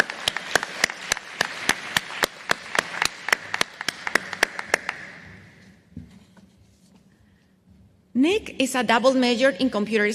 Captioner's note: applause